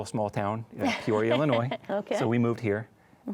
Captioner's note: chuckles